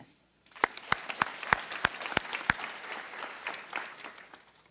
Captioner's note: applause